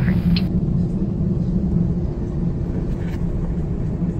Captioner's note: engine roaring